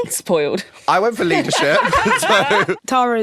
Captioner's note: laughing